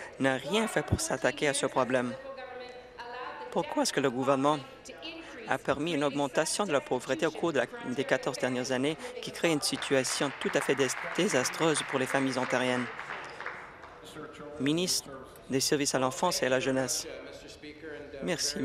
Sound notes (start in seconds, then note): 13.0 applause